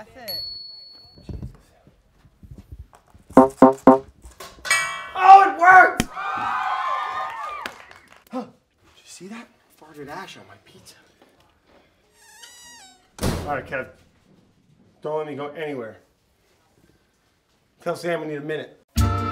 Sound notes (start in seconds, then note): 0.3 bell dings; 7.2 crowd applauding; 12.2 door creaking and closing